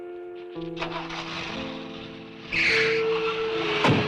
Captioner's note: engine revving